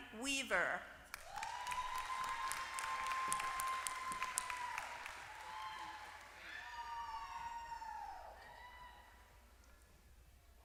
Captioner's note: applause